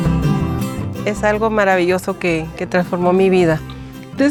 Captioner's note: speaking spanish